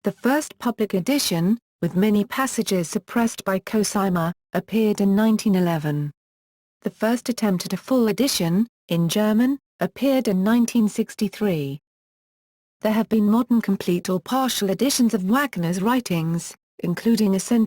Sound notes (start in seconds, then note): 9.2 in German